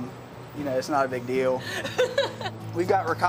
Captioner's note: laughs